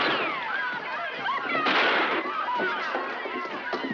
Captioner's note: gunshots continues